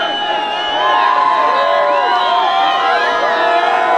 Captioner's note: crowd cheers